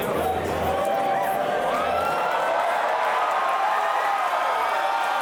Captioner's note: crowd cheers